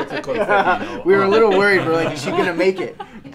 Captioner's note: laughing